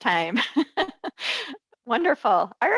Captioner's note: laughs